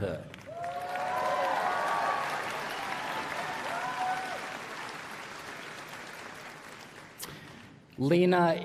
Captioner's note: applause